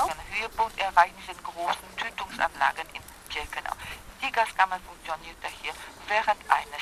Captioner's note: speaking German